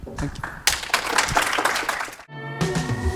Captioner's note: applause